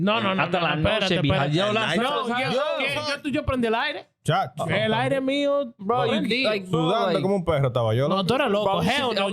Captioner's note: speaking In Foreign Language